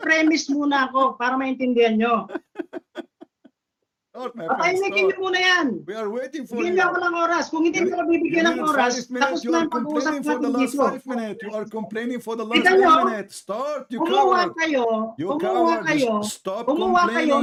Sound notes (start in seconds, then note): 2.2 Ketawa